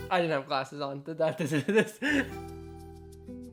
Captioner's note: laughing